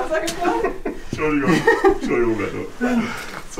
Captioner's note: laughter